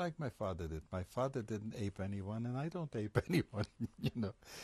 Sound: laughs

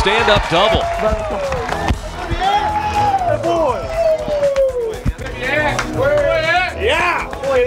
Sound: cheering

